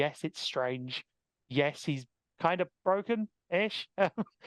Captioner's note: laughing